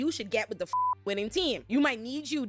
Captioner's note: beep